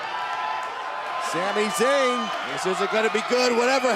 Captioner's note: cheers & applause